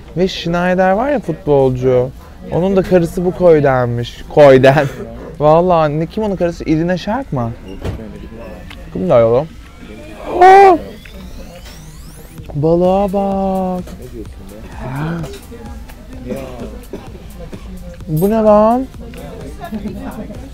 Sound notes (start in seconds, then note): 10.3 gasps; 14.6 omnom